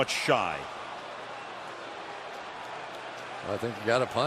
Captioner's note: crowd clamoring